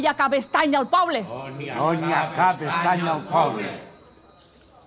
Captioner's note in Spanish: al unísono